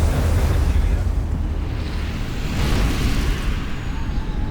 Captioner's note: wind blowing